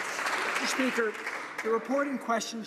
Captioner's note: some Applause